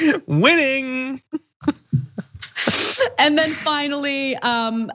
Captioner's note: laugh